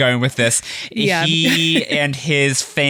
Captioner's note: laughs